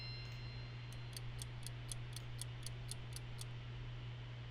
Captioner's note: clock ticking